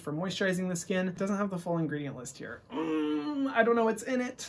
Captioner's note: grunts